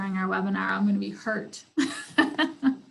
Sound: laughs

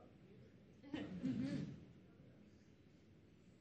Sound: laughs

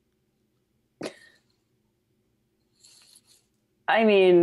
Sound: laughs

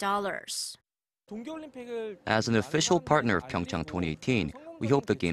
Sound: Korean

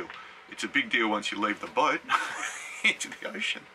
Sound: laughs

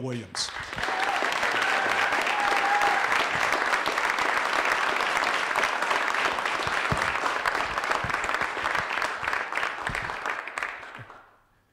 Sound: applause

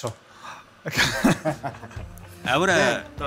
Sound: laughs

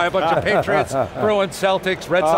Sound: laughing

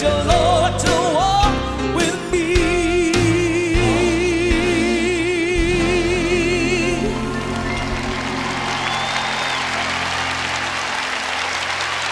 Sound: cheers and applause

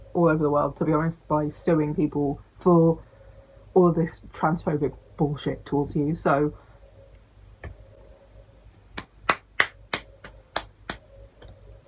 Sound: applauds

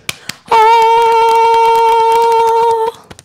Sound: clapping; beating Chest; sustaining note; beating Chest

